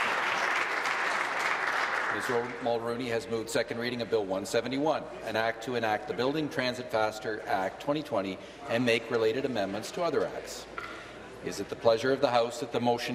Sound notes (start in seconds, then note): 2.4 applause